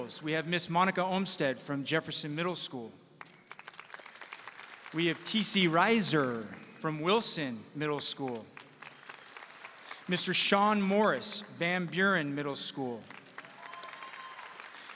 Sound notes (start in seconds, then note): 3.2 audience applauding